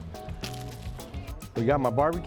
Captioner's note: food crunching